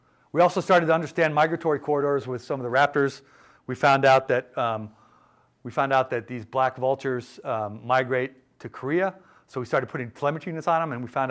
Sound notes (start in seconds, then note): none